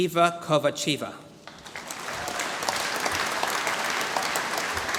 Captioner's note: applause